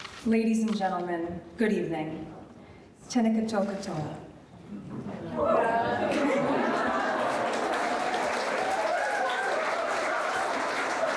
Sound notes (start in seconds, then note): 3.2 speaking foreign language; 5.3 audience laughing and applauding